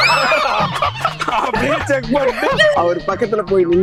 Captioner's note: laughs